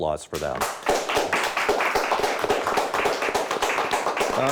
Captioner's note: crowd applauds